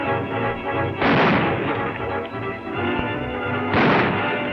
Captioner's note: guns firing